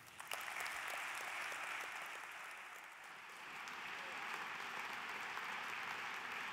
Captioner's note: applause